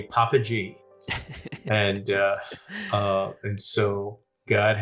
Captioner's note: laughing